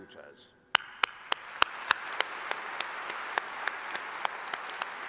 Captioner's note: applause